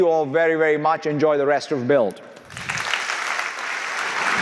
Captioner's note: audience applauding